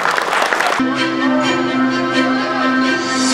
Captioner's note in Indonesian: tepuk tangan